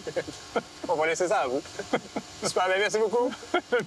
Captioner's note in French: rires